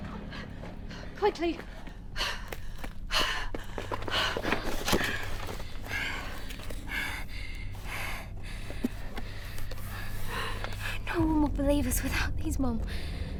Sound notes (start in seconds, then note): 3.2 panting; 5.2 Lucy panting; 11.4 suspenseful music